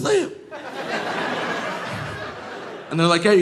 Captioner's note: audience laughing